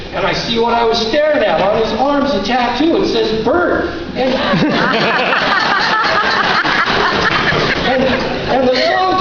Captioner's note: laughter